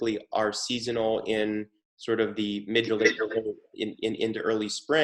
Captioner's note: audio glitches